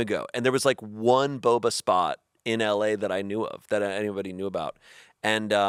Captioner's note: none